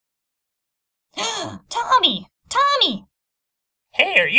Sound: gasp

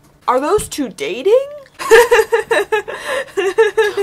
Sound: laughing offscreen

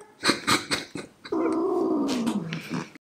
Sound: chuckles; Fifi growls

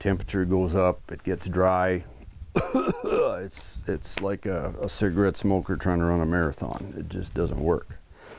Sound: coughing noise

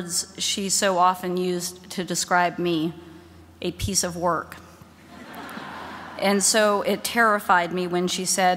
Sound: laughter

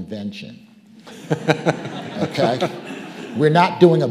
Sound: audience laughing

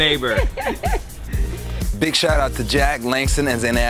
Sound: laugh

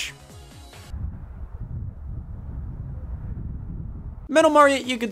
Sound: wind blowing

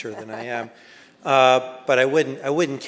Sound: laughs

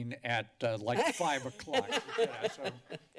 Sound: laughter

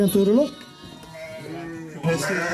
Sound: lamb sheep bleating sounds meeee meee meee

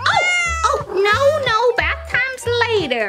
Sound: cat meows

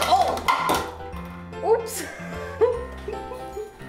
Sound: giggles

